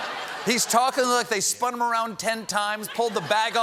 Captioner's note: laughter